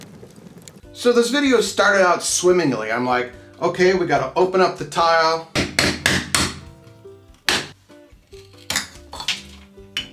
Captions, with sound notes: So this video started out swimmingly. I'm like okay we got to open up the tile. (hammering)